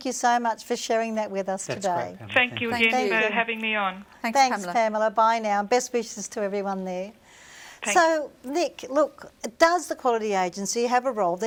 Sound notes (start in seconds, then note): 2.5 voiceover